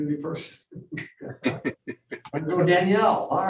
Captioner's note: members laughing